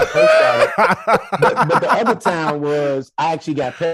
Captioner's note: hosts laughing